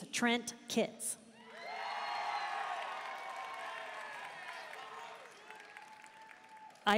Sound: audience cheering and applauding

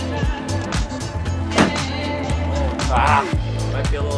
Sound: golf club smashing

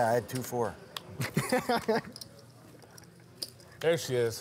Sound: laughing

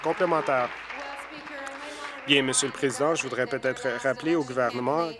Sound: applause

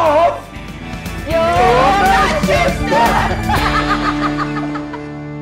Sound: laughs

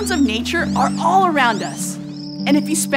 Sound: grasshopper chirp

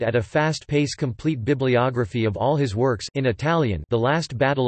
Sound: in Italian

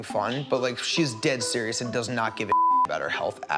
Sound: beeps

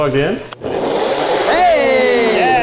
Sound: blender grinding

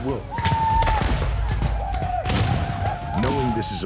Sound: gunshots, whooping

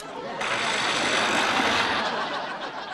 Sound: disposal grinding

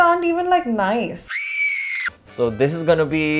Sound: girl screaming

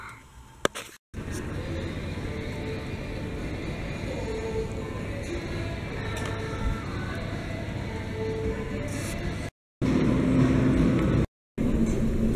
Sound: noisy background in store, then car, then restaurant

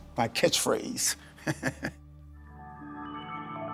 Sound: laughs

